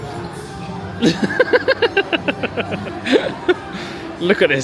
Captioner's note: laughs